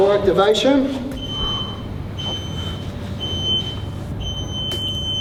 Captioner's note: timer beeping